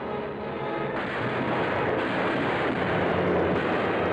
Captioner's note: explosions